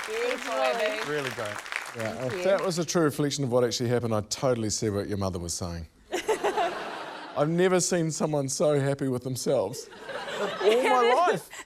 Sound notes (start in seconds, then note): 6.1 laughter